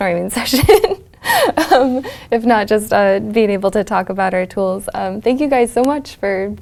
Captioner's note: laugh